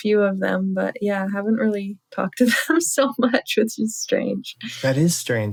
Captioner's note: laughter